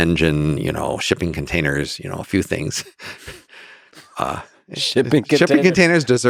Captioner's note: chuckles